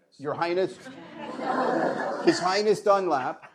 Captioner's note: laughter